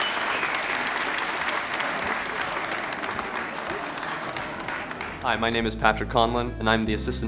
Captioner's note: applause